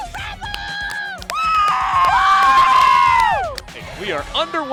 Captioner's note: cheering